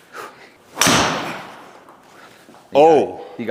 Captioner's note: club smacks ball